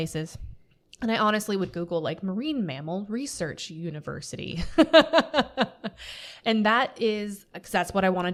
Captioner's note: laughter